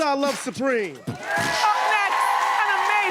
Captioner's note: cheering